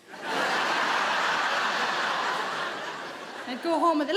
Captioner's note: crowd laughs